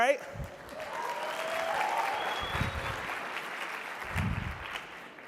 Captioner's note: audience applauding and cheering